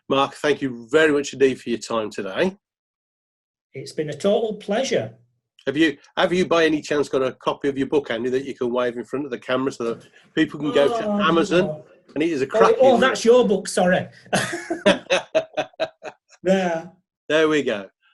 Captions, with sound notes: Mark, thank you very much indeed for your time today. - It's been a total pleasure. - Have have you, by any chance, got a copy of your book. One that you could wave in front of the camera so that people could go to Amazon. - Oh that's your book, sorry. (laughing) - There we go.